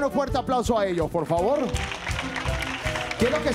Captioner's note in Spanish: Aplausos